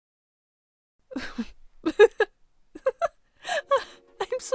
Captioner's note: laughs